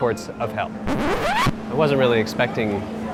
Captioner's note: rubbery squeak